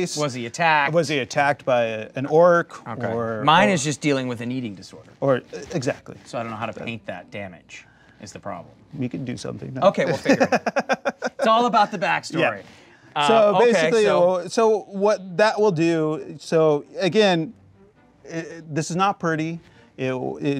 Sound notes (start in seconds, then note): 10.1 laughing